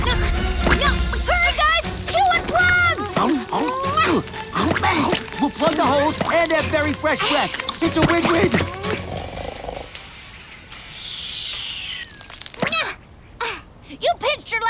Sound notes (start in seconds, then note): 8.8 snoring